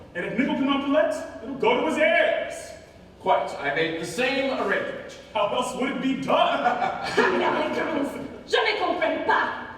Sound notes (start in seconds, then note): 6.5 both laugh